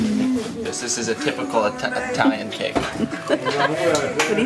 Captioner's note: laughter